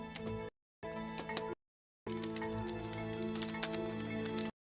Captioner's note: paper crinkling